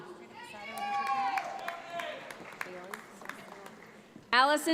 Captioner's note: audience applauds